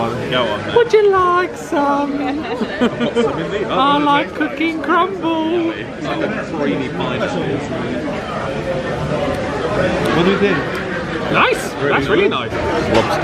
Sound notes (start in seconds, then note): 2.2 they chuckle